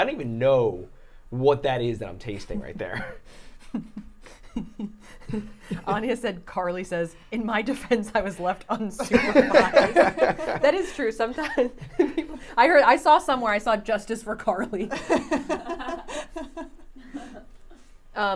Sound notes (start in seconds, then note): 3.6 Safiya laughing; 8.9 all laughing; 14.7 laughing